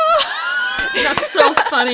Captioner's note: laughter